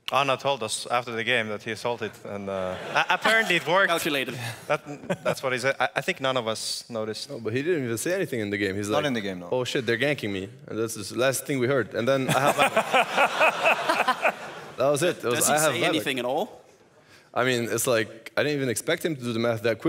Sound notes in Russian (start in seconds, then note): 12.2 смех